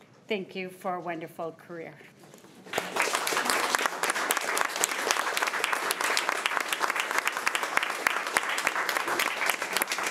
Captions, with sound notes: Thank you for a wonderful career. (all clapping)